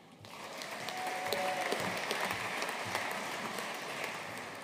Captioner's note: audience applauding